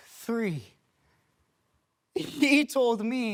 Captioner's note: silence